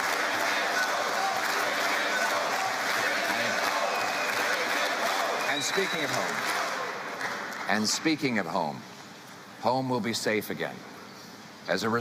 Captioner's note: chanting